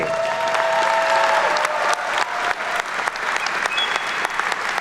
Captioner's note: attendees cheer and clap